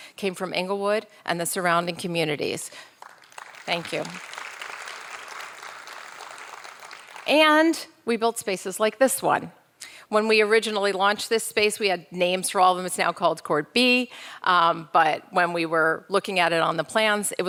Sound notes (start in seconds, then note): 3.0 audience applauding